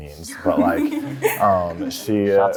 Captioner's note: laughing